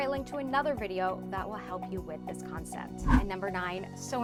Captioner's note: air whooshes